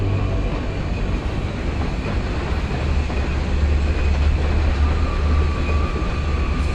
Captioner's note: moving train